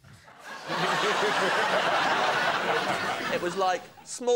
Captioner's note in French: rires